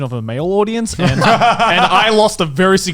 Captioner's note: laughing